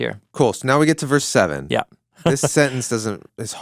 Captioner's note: chuckling